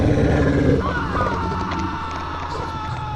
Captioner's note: screams